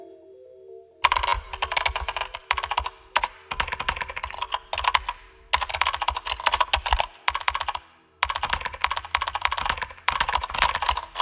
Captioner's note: keyboard and various computer sounds, including ‘sending’ and ‘received’ alerts